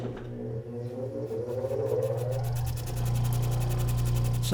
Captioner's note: machine whirring